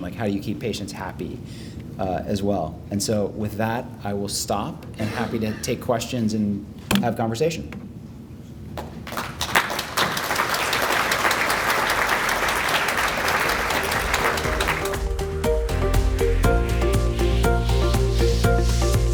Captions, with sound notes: Like how do you keep patients happy as well. And so with that, I will stop, and happy to take questions and have conversation. (audiences applauding) (upbeat music)